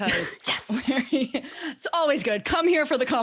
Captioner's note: laughs